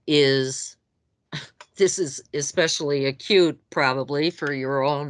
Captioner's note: scoffs